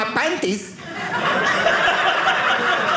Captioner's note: audience laughing